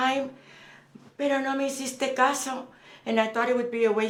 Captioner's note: Spanish